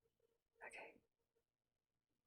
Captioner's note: whispers